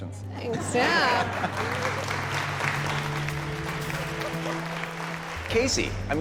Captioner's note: applause